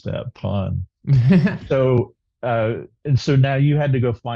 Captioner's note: laughs